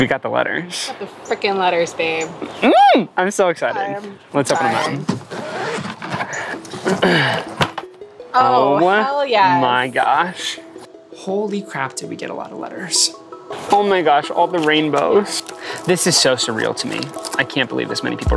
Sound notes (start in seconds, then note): 2.7 squealing